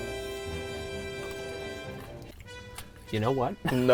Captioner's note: crunching